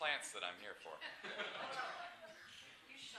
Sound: laughter

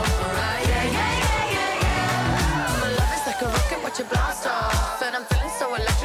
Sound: woo

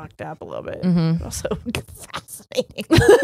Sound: both laughing

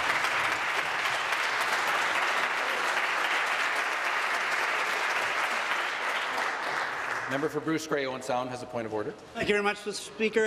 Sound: applause

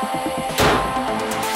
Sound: bonnet slams

